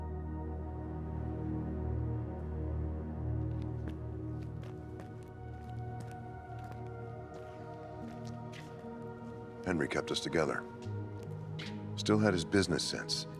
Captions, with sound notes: (eerie music) (footsteps tapping) - Henry kept us together. Still had his business sense.